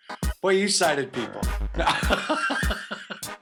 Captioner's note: laughs